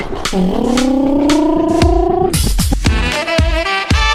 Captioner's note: V8 sounds